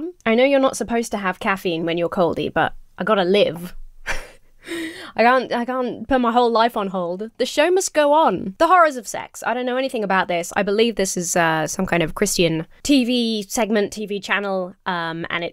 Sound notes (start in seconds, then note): 4.0 chuckles